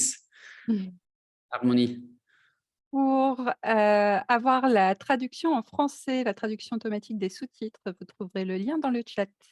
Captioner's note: speaking in Non-English language